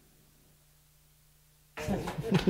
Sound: applause

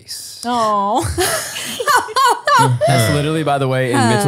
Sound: group laughing

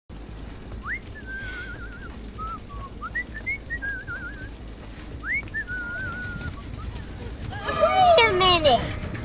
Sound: whistle Sound

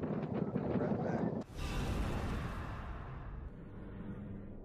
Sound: whoosh

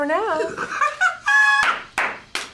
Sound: laughs

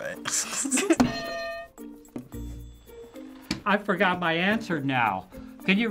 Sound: both giggle; hitting bell

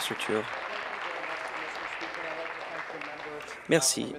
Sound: applause

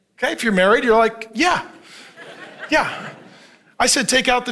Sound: congregation laughing

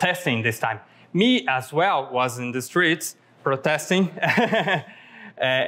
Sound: laughs

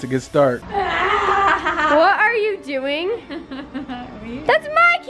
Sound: laughs evilly; laughs

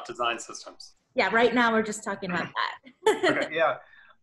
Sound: laughs

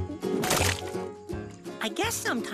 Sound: splat

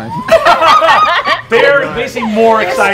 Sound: players laughing

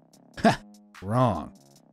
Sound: narrator chuckles

